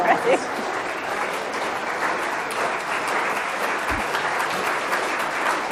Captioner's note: audience claps loudly